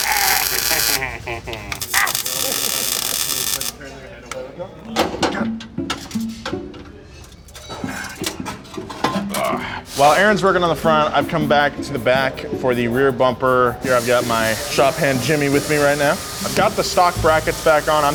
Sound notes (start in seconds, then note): 0.1 weld zapping; 9.4 groans